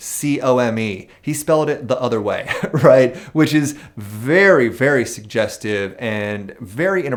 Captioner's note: chuckles